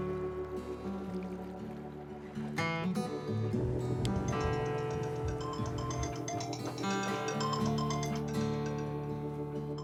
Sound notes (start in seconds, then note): 4.2 phone ringtone chimes; 5.8 gentle acoustic guitar music